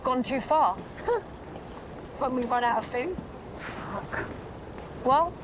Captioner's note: chuckles